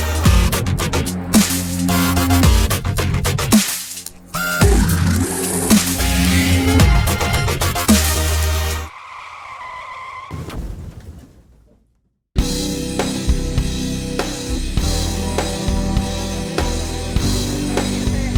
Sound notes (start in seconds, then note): 9.2 braking and crash sound